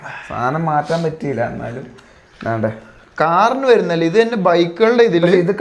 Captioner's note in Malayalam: ചീറ്റുന്നു